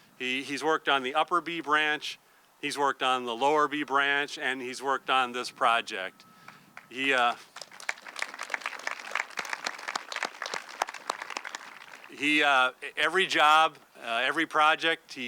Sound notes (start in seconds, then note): 6.7 audience clapping